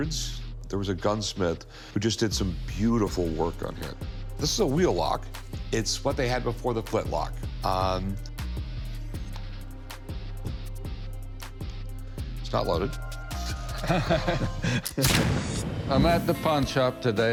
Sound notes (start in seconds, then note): 13.7 laughter; 15.0 gunshot